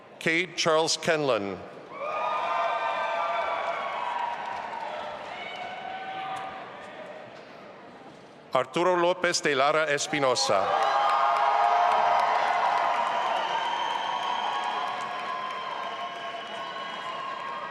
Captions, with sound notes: Kade Charles Kenlon. (audience applauding and cheering) Arturo Lopez de Lara Espinosa. (audience applauding and cheering)